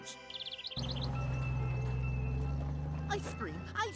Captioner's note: bell ringing